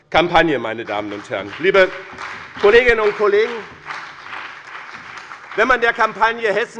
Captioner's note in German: Beifall bei dem BÜNDNIS 90/DIE GRÜNEN und der CDU